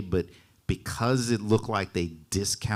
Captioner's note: none